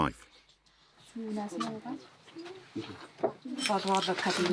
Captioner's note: foreign spoken audio